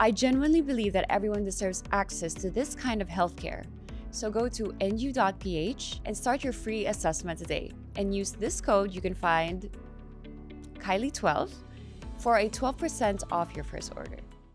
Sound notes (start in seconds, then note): none